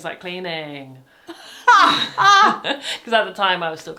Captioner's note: laughs